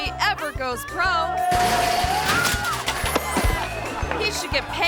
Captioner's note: table crashes